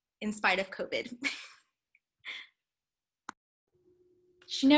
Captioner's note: laughter